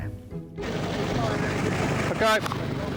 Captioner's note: lifeboat engine whirring